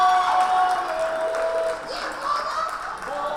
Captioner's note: cheering